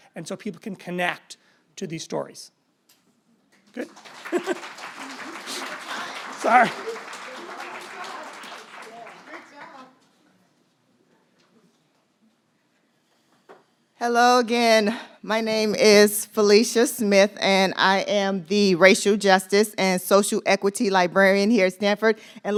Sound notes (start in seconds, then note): 3.7 audience applauds